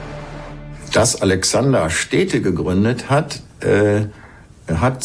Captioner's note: in German